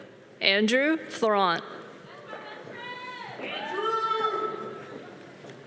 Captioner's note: audience cheering